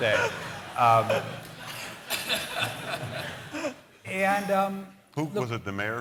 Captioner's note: laughter